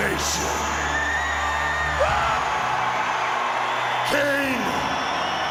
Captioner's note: audience cheers